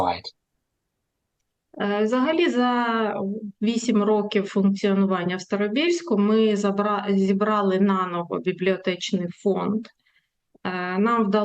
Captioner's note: foreign language